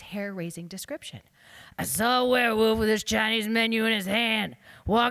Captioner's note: gruffly